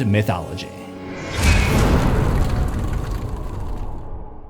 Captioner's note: impact